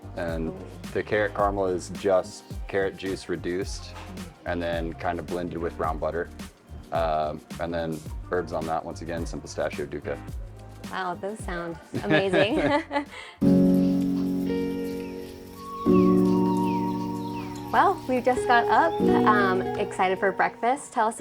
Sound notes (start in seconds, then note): 11.8 laughs; 13.4 soft soothing music; 13.5 birds chirping